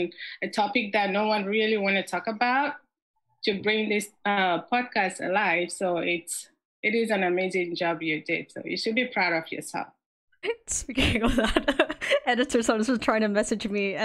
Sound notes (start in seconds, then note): 10.9 giggles; 11.1 laughs